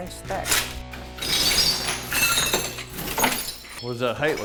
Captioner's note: broken tiles clinking